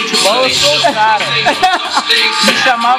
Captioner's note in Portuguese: risos